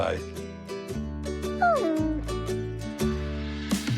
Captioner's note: whimpers